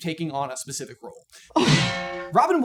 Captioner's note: bong